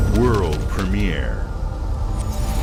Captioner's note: fluttering